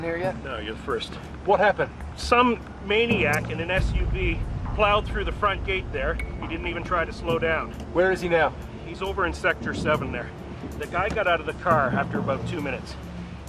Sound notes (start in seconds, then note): none